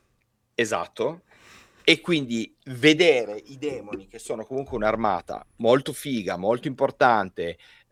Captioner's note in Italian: sbuffare